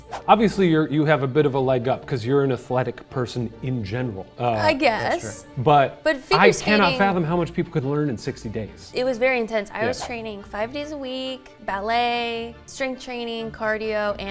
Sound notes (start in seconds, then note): none